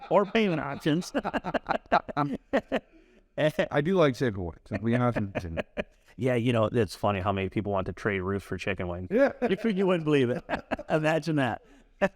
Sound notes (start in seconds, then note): 1.6 laugh